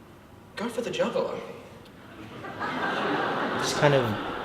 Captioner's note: audience laughs